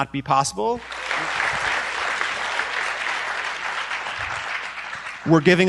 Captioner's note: applause